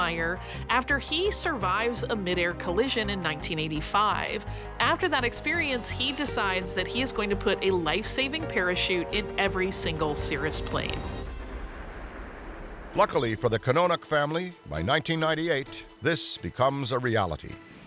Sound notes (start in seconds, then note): 11.0 water splashing